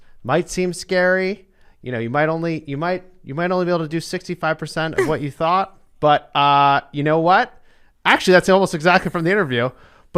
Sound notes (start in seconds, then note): 4.9 laughs